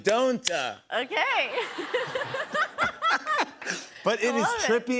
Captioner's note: laughter